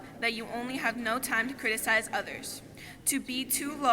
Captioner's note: none